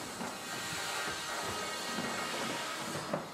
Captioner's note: saw screeching in the background